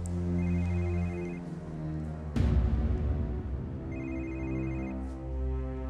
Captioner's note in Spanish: suena un celular